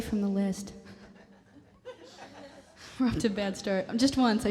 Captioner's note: laughter